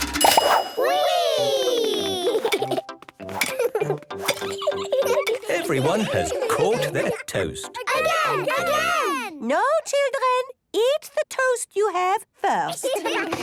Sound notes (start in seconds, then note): 0.0 pings; 7.7 children calling out